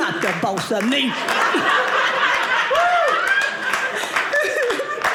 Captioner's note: audience laughing